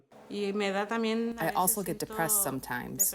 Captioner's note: through translator